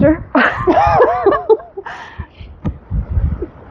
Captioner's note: laughing